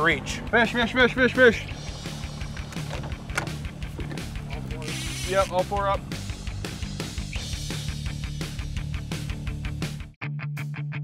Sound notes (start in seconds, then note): 4.8 reel spinning